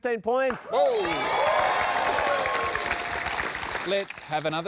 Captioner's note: cheering and applause